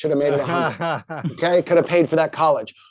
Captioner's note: chuckles